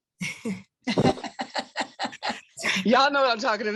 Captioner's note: laughing